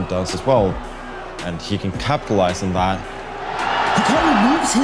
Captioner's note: crowd cheering